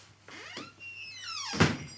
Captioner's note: door creaks; door thuds; bells clanging